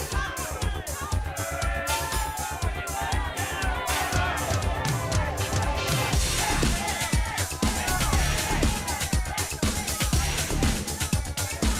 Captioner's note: crowd chatter